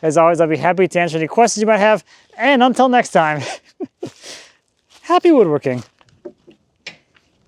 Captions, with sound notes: As always, I'll be happy to answer any questions you might have, and until next time, (chuckling) happy woodworking.